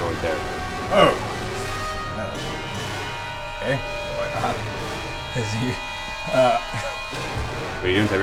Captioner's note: laughs